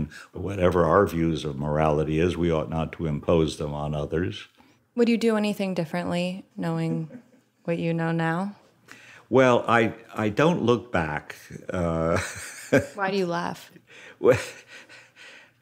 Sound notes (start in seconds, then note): 11.6 laughs